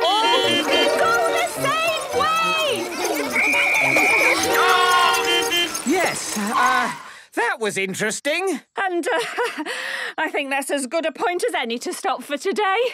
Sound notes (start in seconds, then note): 0.0 beeping; 3.0 whistle blowing; 5.2 beeping